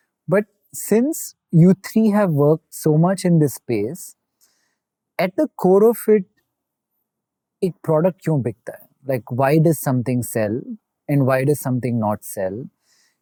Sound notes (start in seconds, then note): 7.5 speaking in Hindi